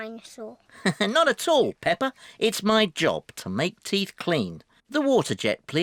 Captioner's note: laughs